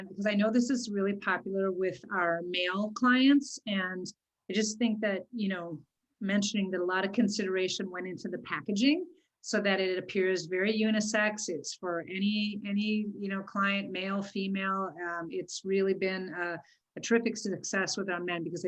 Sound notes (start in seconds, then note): none